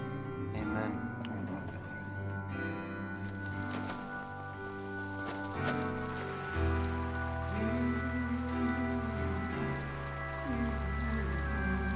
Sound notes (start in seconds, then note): 4.3 sounds of rainfall and umbrellas opening